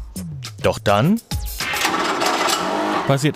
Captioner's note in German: Klacken, Rattern